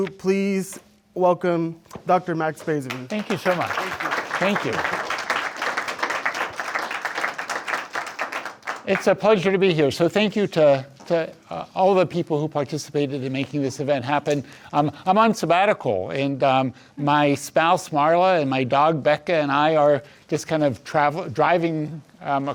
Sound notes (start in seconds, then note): 6.4 audience applauds